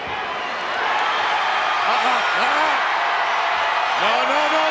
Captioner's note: crowd cheering